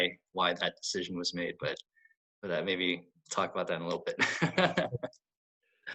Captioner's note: laughs